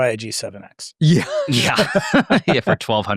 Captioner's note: laughs